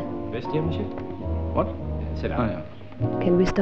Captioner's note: French spoken audio